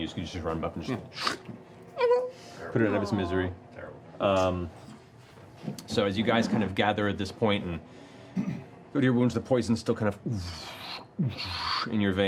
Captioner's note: throbbing